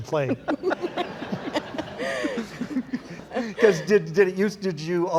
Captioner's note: laughing